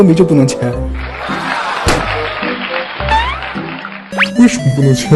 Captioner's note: applausing